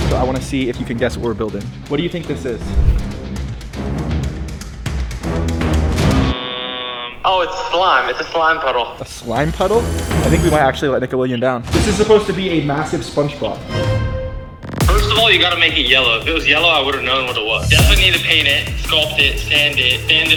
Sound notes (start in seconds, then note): 2.9 dramatic suspenseful music; 13.8 dramatic whooshing